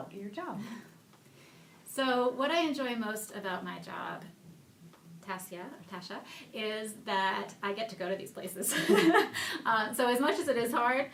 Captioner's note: laughing